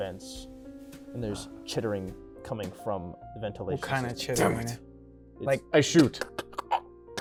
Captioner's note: chittering noises